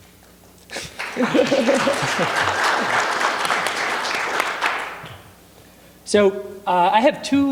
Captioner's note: applause